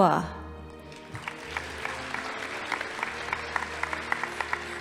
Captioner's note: audience applauding